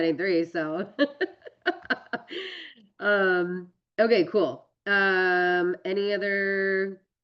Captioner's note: laughs